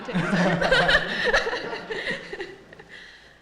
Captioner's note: laughter